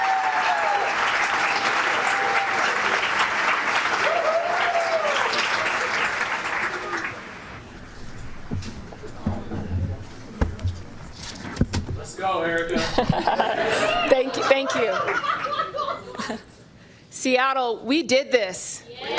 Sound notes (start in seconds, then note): 12.7 laughter; 18.9 cheers and applause